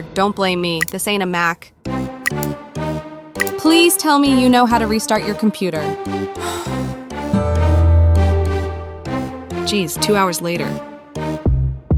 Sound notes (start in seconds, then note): 2.1 mocking; 6.4 sigh; 7.2 audible Mac startup sound